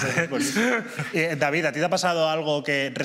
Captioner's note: laughs